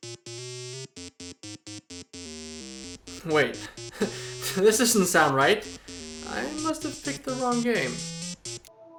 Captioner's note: sigh